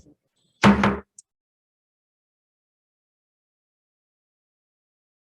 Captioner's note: gavel tapping